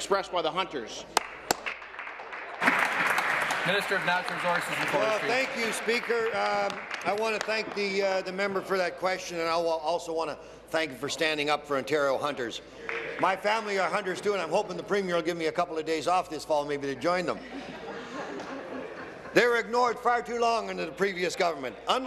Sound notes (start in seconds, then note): 4.5 applause